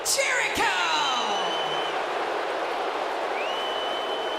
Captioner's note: crowd booing